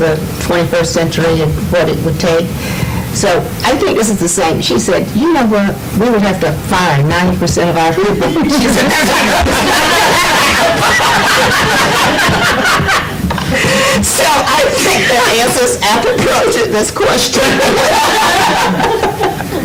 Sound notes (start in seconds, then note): 8.2 laughter